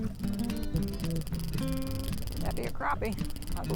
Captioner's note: reel clicking